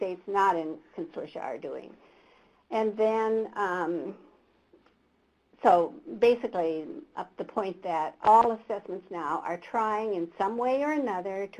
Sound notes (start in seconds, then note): none